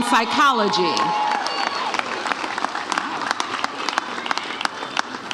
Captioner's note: audience cheers